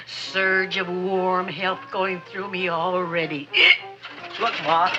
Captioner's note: hiccups